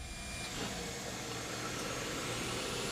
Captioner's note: sander whirring